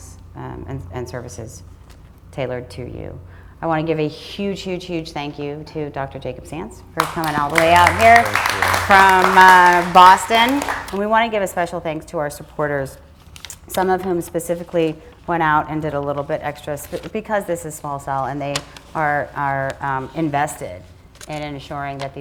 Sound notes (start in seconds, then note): 8.8 attendees applaud